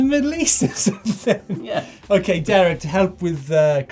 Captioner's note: laughs